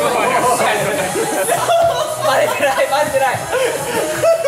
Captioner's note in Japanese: 笑い